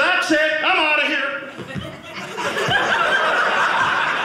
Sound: audience laughing

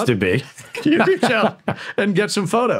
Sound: chuckling

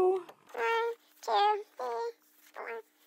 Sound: sped up counting

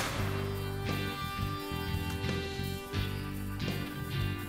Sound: gunshots

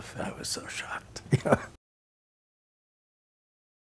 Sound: laughing

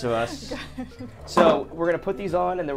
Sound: all laughing

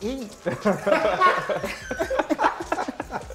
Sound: laughter

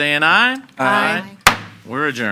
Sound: gavel bangs

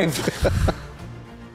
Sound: chuckles

